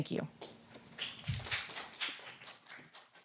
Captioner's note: audience applauds